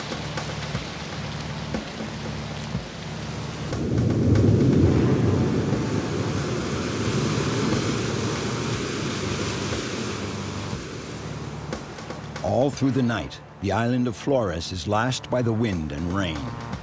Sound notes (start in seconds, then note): 3.9 thunder rumbling; 6.8 waves crashing